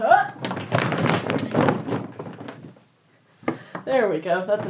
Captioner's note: hamper dumping sounds